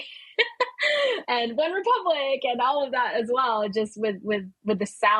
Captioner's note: laughing